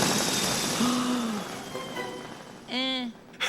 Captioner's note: gasps